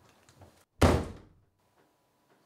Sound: door slams

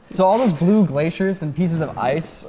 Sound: none

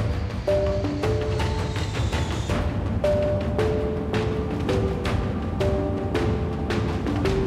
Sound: jet engines

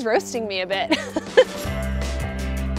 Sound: laughs; upbeat rock music

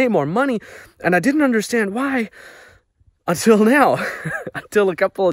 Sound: laughs

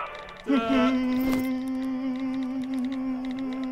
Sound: ta da noises

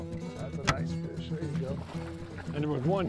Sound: splashing

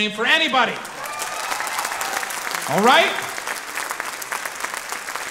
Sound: audience clapping

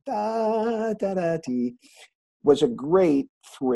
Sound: laughing

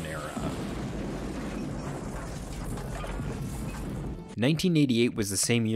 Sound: explosion sounds

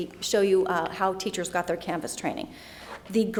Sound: none

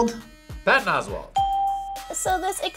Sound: bell rings

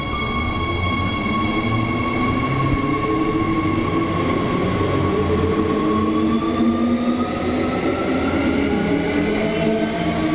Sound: train leaving

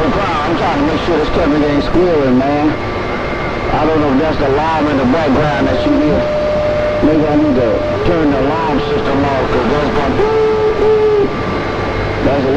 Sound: tones

